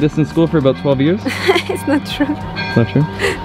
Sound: laughs

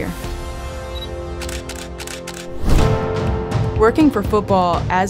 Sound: camera shutter clicking

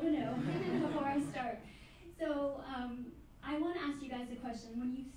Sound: laughing

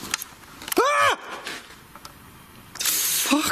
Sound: screaming

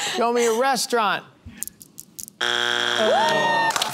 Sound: buzzer

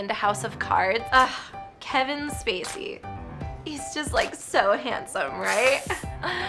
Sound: sighs

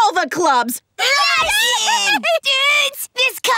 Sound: cheering

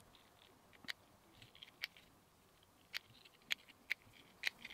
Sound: none

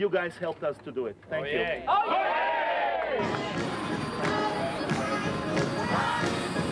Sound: cheering; gospel music

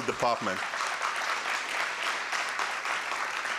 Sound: applause

